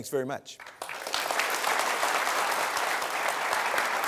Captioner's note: applause